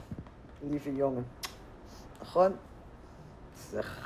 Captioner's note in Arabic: الصوت المنطوق باللغة العبرية